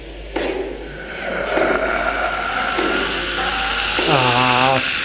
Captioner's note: menacing groan